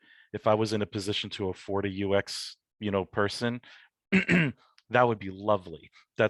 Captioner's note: clears throat